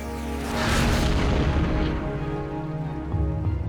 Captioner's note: tank explodes